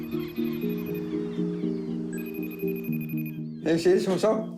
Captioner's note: seagulls squawk, phone rings; relaxed music